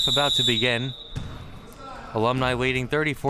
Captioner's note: whistle chirping